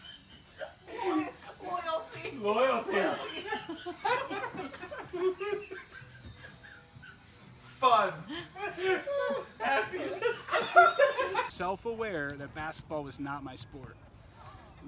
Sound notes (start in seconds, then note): 2.9 all laugh; 8.2 all laugh